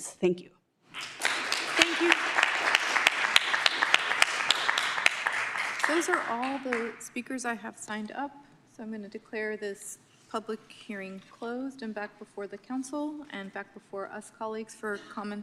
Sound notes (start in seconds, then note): 1.8 applause; 4.7 applause